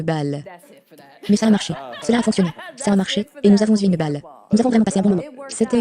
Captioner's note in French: rires